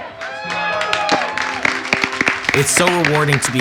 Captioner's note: cheers and clapping